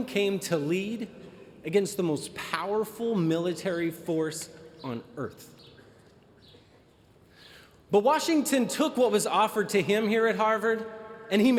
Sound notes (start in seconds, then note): none